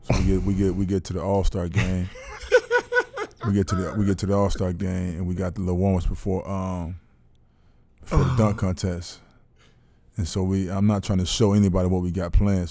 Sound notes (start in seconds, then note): 2.0 laughing